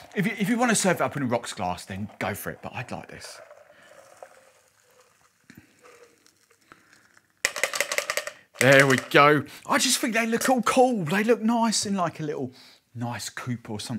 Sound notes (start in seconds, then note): 4.2 pouring liquid; 7.5 shaking ice